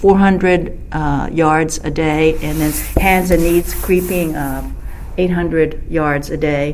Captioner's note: rustling of movement